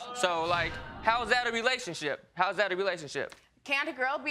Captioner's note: audience exclaiming